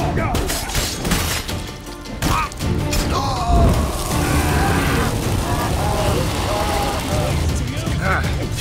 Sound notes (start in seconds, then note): 2.5 flames crackle; 3.3 groan; 6.7 scream